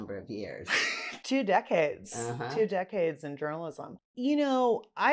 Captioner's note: laughs